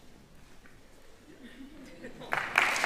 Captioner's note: indistinct chatters; applauding